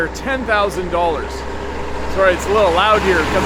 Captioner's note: engine rumbles